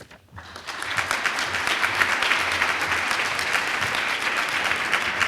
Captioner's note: crowd applauds